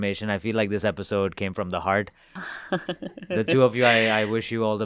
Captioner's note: interviewees chuckle